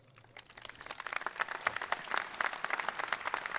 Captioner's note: applauding